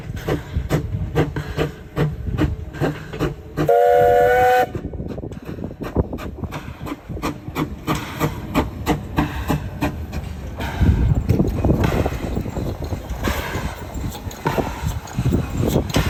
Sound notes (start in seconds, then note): 3.7 whistle toots; 5.2 train chugging